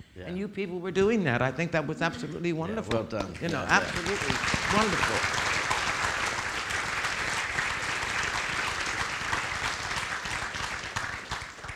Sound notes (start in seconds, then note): 5.0 audience applauding